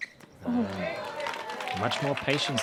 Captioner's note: applause